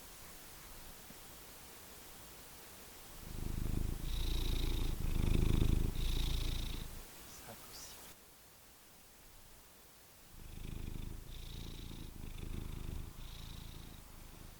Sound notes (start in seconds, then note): 3.1 purr; 10.3 purr